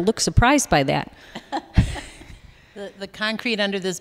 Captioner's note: laughter